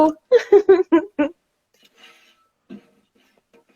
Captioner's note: laughing